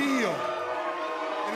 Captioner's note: cheers and boos